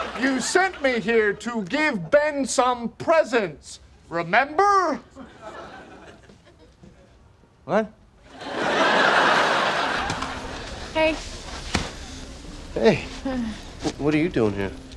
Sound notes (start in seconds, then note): 8.3 audience laughing